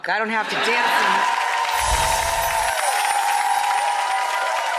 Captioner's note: applause